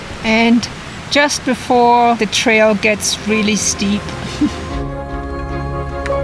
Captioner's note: laughs